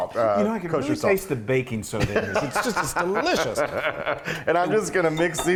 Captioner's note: laugh